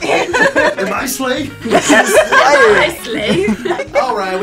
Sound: all laughing

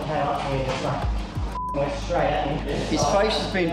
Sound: beep

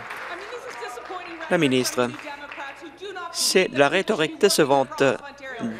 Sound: applause

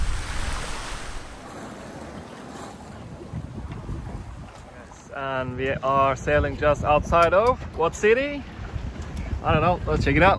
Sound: sea noises

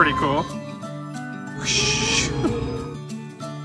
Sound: drink pouring sound

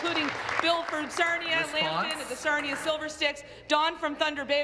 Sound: applause

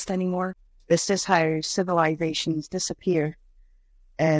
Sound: scottish Accent

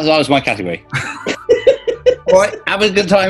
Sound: giggling

